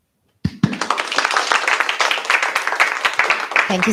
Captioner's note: applause